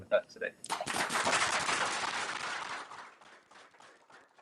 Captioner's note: applause